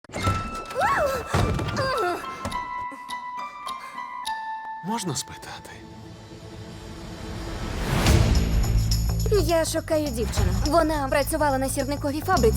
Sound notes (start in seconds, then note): 1.7 yelps, groans; 2.6 exhaling; 8.1 upbeat music plays